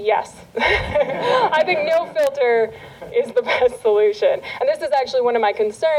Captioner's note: laughter